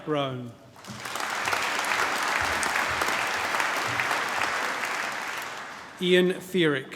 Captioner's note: applause